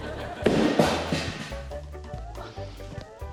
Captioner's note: broom crashes